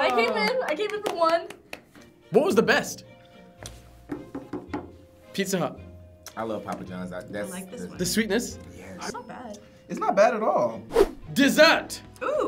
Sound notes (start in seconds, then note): 4.1 finger tapping table